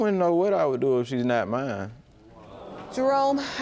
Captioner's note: audience groans